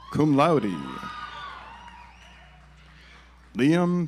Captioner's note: audience applauds